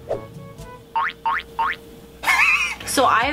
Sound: cartoon boink

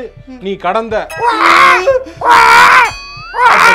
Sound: baby crying voice cameo

